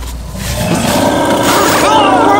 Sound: creature roars

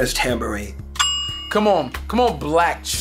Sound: bell sound

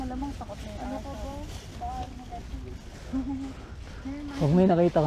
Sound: laugh

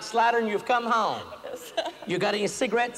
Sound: laughter

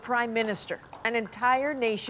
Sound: applause

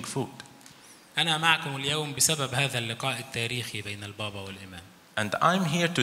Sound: speaks in foreign language

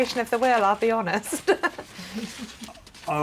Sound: laughs

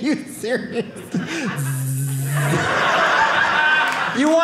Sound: buzzing noises

